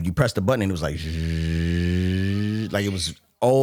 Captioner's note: hums